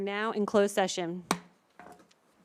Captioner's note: gavel hitting dais; silence